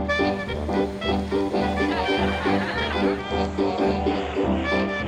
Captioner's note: people laughing